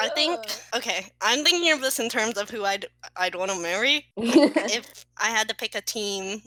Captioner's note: laugh